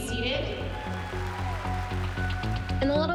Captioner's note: cheering and applause